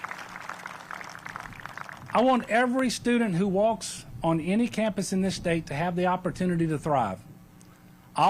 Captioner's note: applause